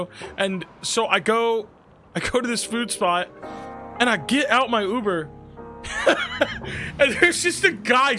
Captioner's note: laughs